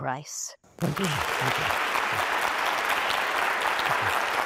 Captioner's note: applause